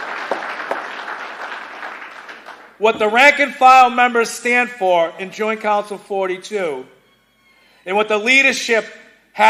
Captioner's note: cheers and applause